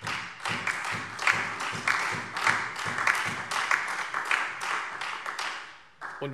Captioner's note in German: Beifall Freie Demokraten, SPD und DIE LINKE